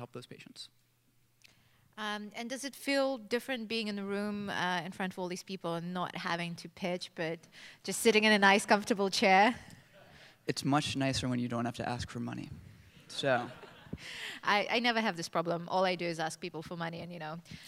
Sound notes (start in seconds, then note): 13.2 laughter